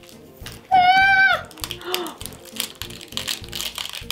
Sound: yelps

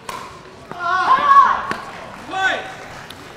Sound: shouting

